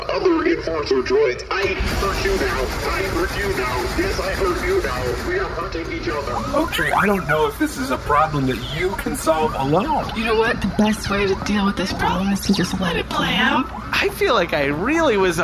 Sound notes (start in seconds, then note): 6.3 blasts machine gun